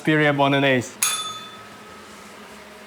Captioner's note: bell rings